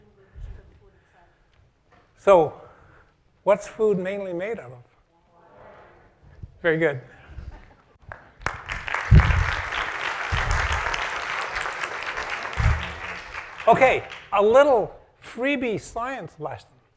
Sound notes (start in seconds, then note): 10.7 applause